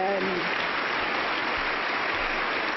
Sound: applause

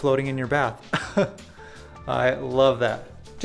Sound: laughs

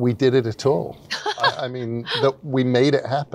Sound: laughs

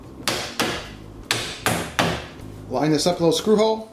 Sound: banging noise

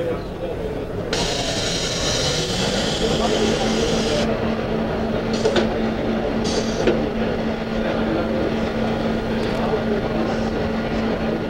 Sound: machine running

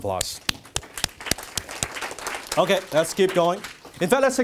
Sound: applause

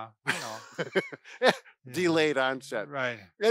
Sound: laughs

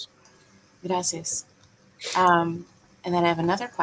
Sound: speaking in foreign language

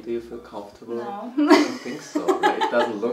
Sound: laughs

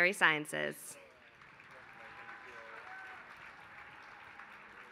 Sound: applause

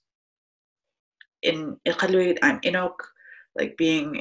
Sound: speaks foreign language

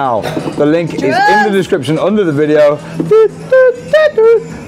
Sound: hums

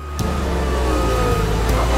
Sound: squeaking

